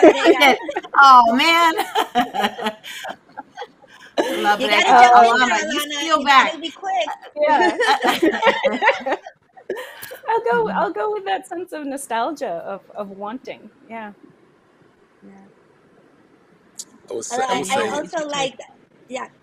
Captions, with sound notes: - La brega. - Oh, man. (laughs) La brega. - You gotta jump in there, Alana. - Alana, you steal back. - You gotta be quick. - Yeah. (group laughs) I'll go with that sense of nostalgia, of wanting, yeah.